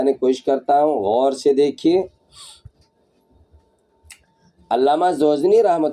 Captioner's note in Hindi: नाक से की जाने वाली आवाज़